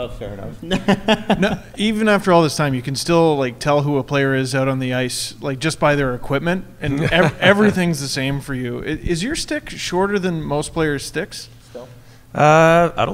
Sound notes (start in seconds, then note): 0.7 laughing